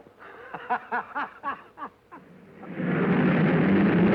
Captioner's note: happy laughing; cars revving